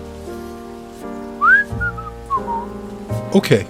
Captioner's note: whistling